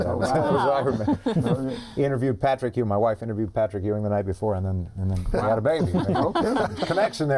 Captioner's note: laughter